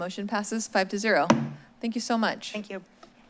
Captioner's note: bangs